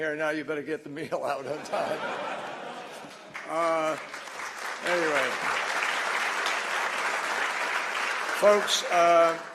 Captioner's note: laughter and applause